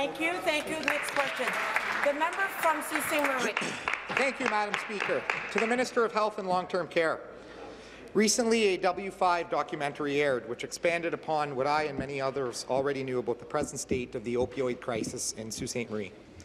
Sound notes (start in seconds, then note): 5.4 applause